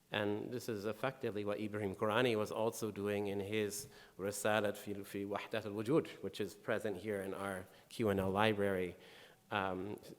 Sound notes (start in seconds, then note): 4.0 speaking in foreign language